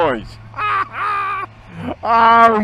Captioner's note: laughing